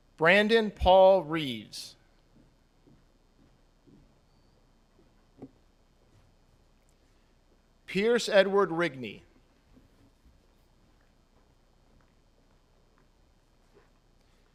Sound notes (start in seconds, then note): none